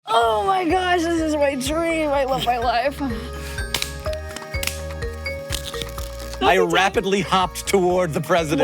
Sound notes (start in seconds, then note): 3.2 bright music; 3.7 floppy disk crackling